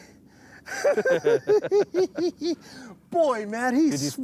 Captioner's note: laughter